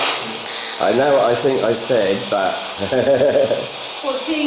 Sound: laughing

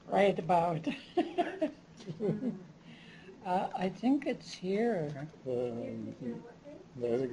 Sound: chuckles

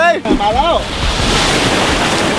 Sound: sea waves

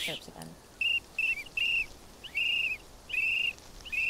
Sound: blowing whistle

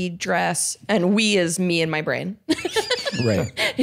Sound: laughs

